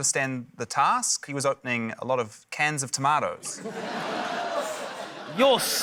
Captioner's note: laughter